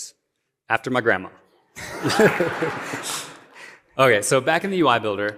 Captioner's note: laughter